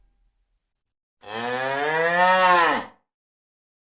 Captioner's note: sound of mooing cow